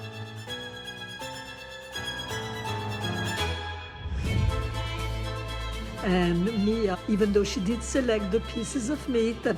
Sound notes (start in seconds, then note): 0.2 bold music; 3.8 air whooshes